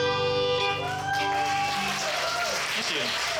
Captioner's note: audience applauds and cheers